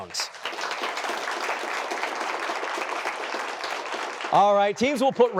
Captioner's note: applause